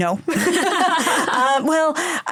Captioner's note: laughter